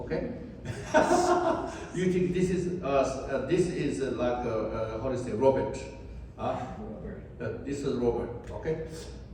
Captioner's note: laughs